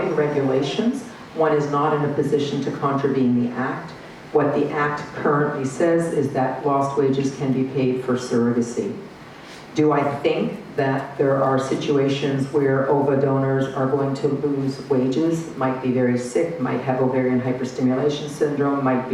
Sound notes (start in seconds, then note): none